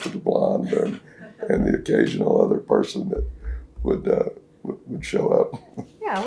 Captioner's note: laughter